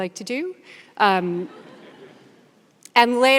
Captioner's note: audience laughs